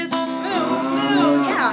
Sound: cow mooing

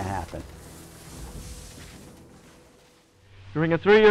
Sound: UFO crashing

